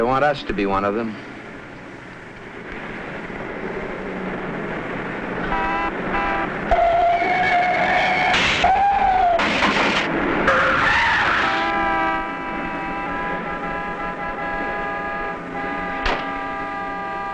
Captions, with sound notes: I don't want us to be one of them. (horn honking) (tires screeching) (crashing) (horns blaring)